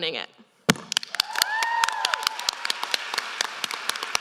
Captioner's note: applause